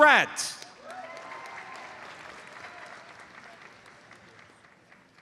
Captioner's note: audience applauds